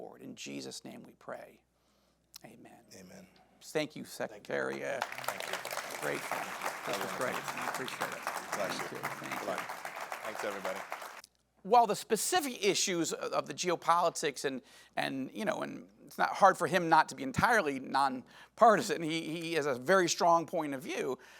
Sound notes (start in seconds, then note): 8.1 audience applauding